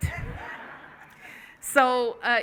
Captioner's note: laughing